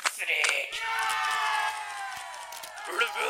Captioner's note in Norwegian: alle roper hurra